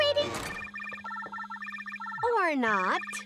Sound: phone ringing

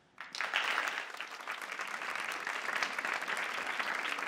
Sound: audience applauds

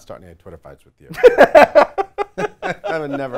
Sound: laughs

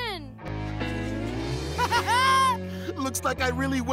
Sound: laughing

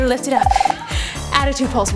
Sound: timer buzzing

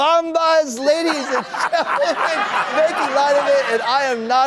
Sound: laughter

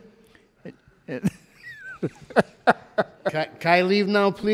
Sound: laughs

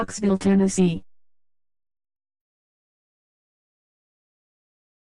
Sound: silence

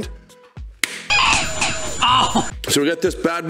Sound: slaps turkey; turkey gobbling

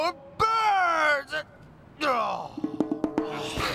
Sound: groans

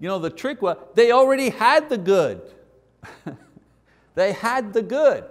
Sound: chuckles

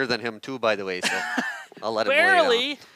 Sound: laughs

